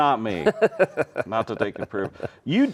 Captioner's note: laughing